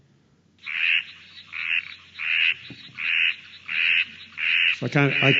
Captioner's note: sounds of a little red tree frog playing